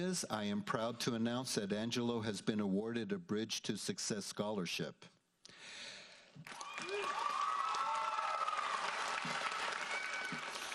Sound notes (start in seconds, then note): 6.4 audience applauds